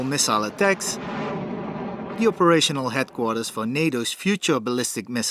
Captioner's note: missile in flight